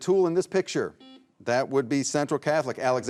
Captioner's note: buzzer beeps